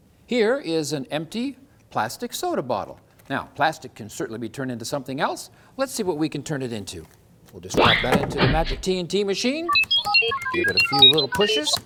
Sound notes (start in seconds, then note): 9.7 bleeps-tinkle-bleeps!